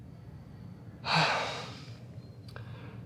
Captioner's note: sigh